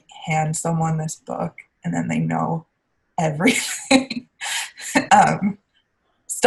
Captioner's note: laughing